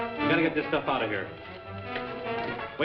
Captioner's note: timer ticking